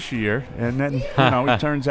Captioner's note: laughs